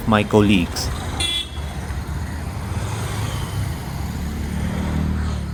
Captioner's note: traffic noise